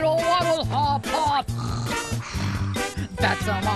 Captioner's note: snore snore